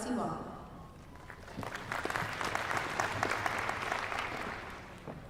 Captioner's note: applause